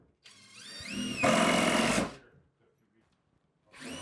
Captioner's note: drilling sounds